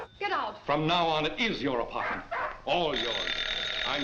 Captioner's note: dog barks; phone rings